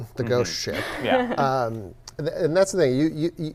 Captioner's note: laughs